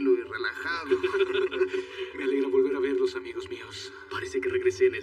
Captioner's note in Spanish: Risas